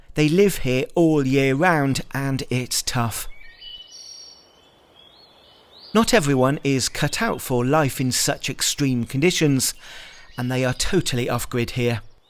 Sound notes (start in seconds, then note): 3.5 birds chirping